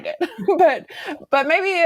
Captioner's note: laughing warmly